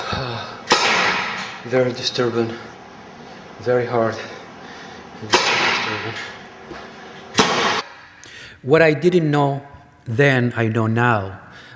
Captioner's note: out of breath